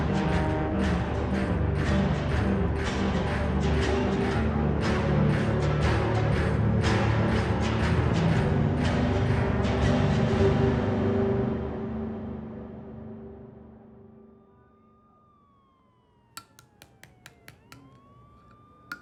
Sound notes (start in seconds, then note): 14.0 siren wailing; 16.4 knife tapping